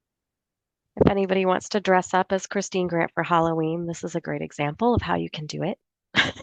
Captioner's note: chuckles